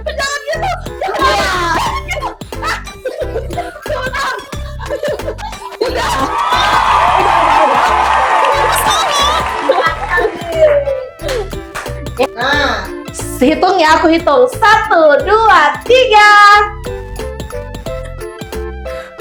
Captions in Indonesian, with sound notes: jangan gitu gitu. [tertawa] Udah,udah. [bersorak] Nah, hitung ya. Aku hitung. 1 2 3.